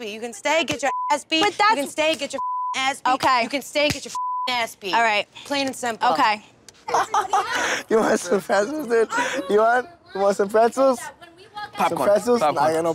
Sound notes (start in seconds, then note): 0.8 beep; 2.4 beep; 6.8 laughing